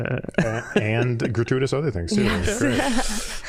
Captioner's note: all laughing